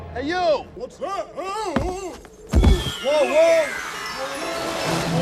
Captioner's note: Santa falling and yelling incoherently